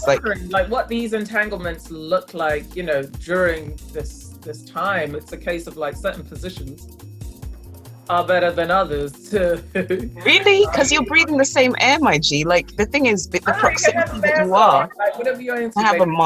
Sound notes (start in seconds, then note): 9.7 giggles